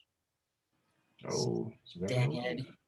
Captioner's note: murmurs